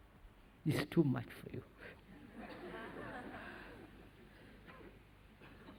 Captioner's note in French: Rires